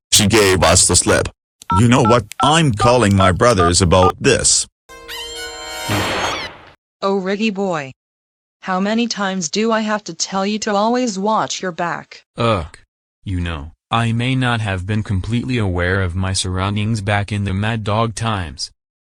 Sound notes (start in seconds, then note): 1.6 cell phone dial; 5.9 thud